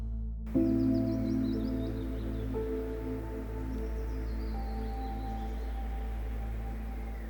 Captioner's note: peaceful music; birds chirping